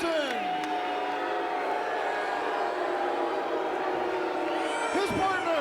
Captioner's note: fans cheering and booing